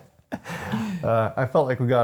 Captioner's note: laughing